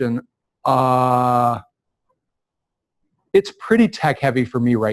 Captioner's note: pause